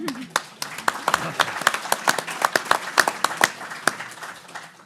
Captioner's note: everyone applauding